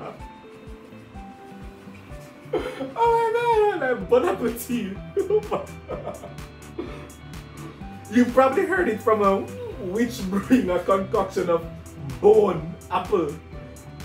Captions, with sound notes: Oh my god!!! Bone apple tea! (laughing) You've probably heard it from a witch brewing a concoction of bone, apple,